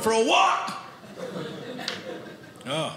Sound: audience laughing

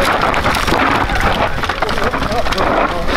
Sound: crowd

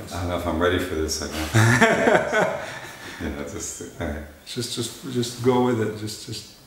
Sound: laughter

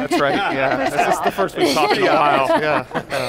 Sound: laughs

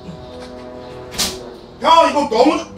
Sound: thud

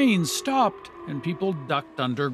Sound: sirens

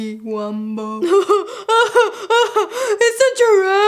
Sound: imitates Patrick laughing

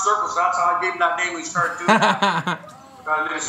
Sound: laughs

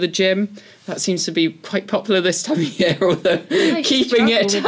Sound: laugh

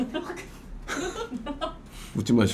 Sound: laughing

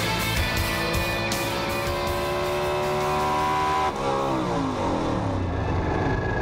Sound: car engine

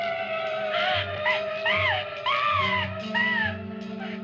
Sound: screams

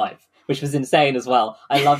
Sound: laughs

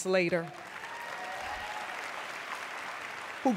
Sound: cheering and applause

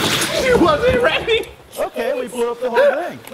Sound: spit

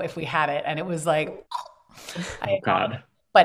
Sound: choke sound

